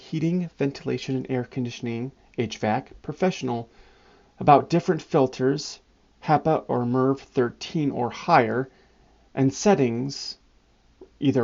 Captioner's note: hvac